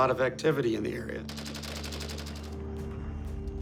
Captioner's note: gunfire